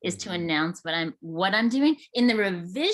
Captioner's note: none